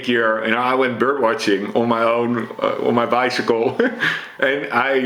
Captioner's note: chuckles